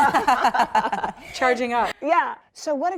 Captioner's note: laughter